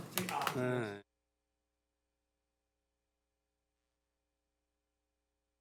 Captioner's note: gavel